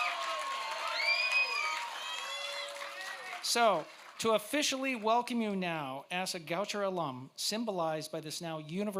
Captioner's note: cheers